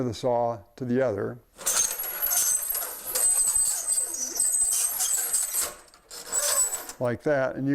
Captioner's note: metal-on-metal scraping